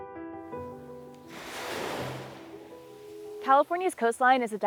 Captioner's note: mellow music; waves crashing